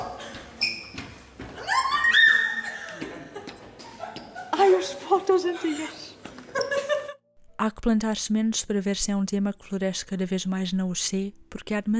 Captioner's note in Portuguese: Risos de pessoas